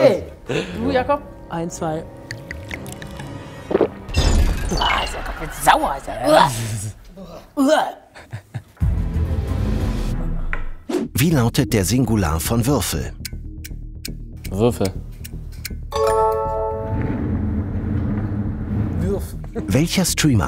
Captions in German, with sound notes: Du, Jacob? - Ja. Eins, zwei ... (Trinkgeräusche) (Schluckgeräusch, elektronische Geräusche) Sauer. (Angewiderte Laute) Uah! (Spannungsvolle Musik) Würfel. Würf.